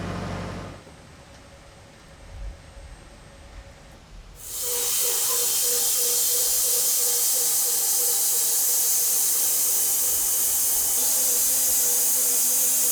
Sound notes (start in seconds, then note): 4.4 sawmill whirring